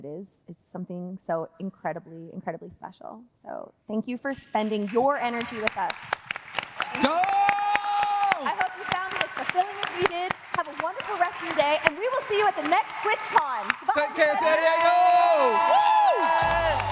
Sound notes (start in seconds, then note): 13.3 applause